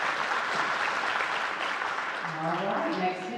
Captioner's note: audience applauding